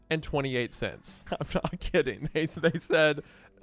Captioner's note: laughing